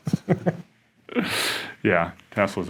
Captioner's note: laughs